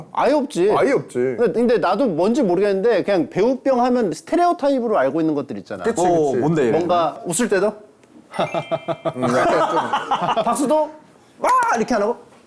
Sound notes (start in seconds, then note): 8.3 laughing gracefully; 8.4 chang-ho's ungraceful laugh